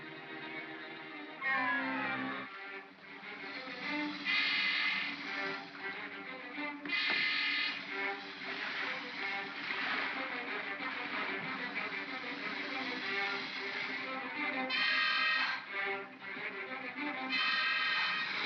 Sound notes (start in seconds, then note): 0.0 ominous music; 3.4 crocodiles hiss; 3.5 ominous music; 6.8 thump; 8.5 crocodiles hiss; 8.5 ominous music; 9.9 water splashes; 11.4 crocodiles hiss; 12.3 ominous music